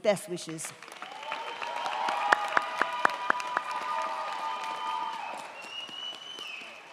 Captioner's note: crowd clapping; crowd cheering